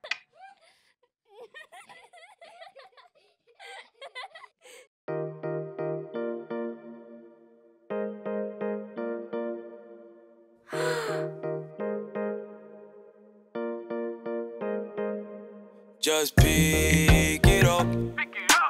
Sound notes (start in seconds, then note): 1.2 children laughing; 5.3 light music; 10.7 children gasp